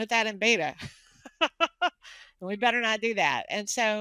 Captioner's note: laughing